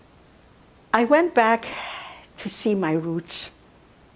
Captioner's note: sighing